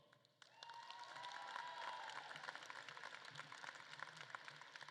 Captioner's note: audience claps and cheers